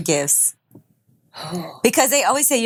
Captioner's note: humming